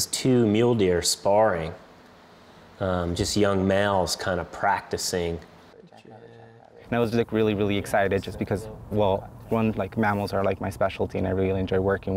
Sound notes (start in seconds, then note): 7.0 voiceover